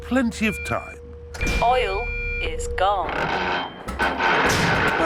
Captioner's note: creaking